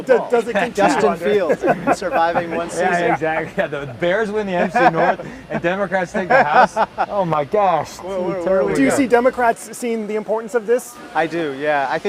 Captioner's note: laughter